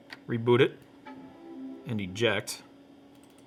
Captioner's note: computer chimes softly